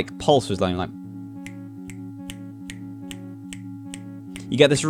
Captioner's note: clicks in time